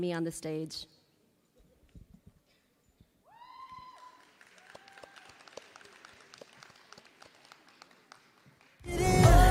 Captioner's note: applause